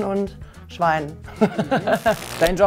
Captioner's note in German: Lachen